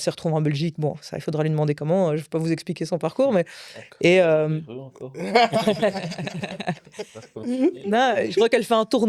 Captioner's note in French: rires